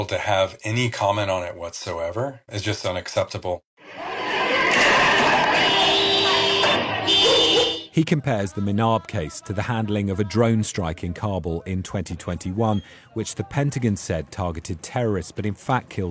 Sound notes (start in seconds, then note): 3.8 crowd chanting